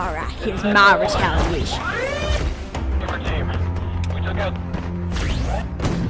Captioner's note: radio chatter